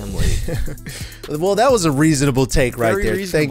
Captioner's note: laughs